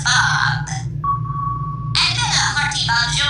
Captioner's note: ping